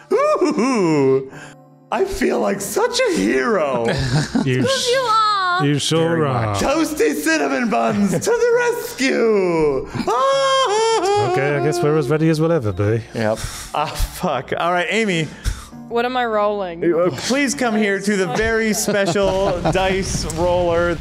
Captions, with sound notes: [Toasty Cinnamon Buns Yelps in Excitement] I feel like such a hero. - You are!!!!!!! - You sure are. - Toasty Cinnamon Buns to the rescue. [More excited sounds] - Okay, I guess we're as ready as we'll ever be. - Yep. - Ah, fudge. All right, Amy. - What am I rolling? - Please come here to the very special dice roller.